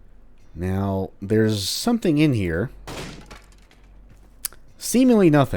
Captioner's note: smash